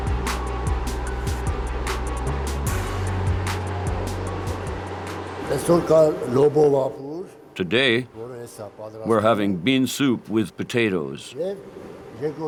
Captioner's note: voiceover